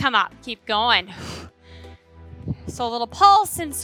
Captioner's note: exhales